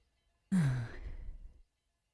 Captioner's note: she exhales